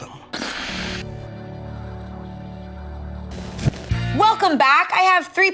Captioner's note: static crackles